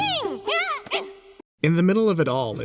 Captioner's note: shouts and grunts